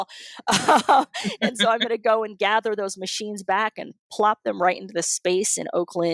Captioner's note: laughter